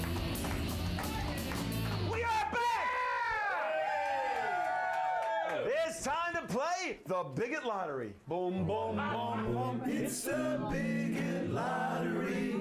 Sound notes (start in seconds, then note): 0.0 audience cheering; 0.0 upbeat rock music; 0.8 audience cheers